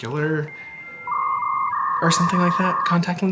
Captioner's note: graphic reverberating